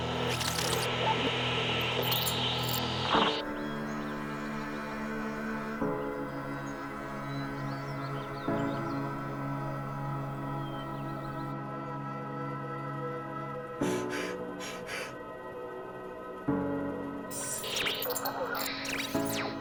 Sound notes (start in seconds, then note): 13.6 sobbing; 17.3 radio beeping